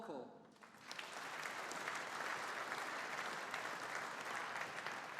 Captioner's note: audience applauding